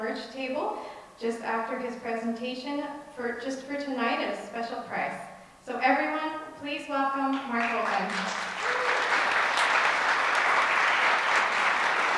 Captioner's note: audience applause